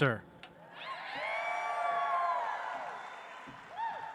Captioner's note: audience applauds